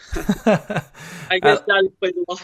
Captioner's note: laughs